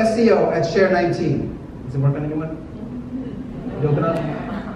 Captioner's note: audience mumbles